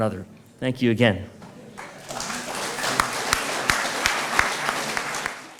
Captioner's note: applause